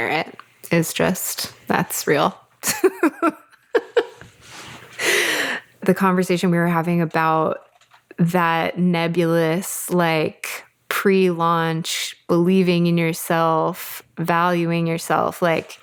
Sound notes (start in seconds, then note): 2.7 laughs